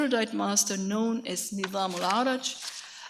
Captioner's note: speaks in a foreign language